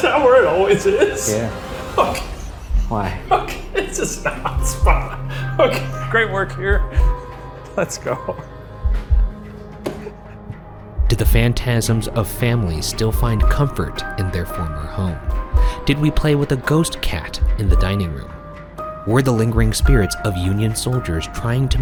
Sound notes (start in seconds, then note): 2.7 laughing; 8.4 suspenseful music